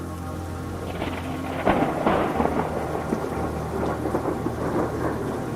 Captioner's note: thunder cracks